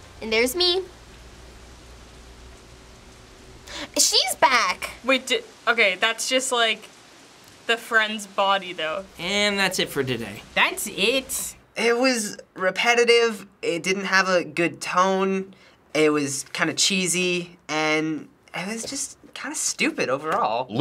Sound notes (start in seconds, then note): 1.2 rain falls; 3.6 gasps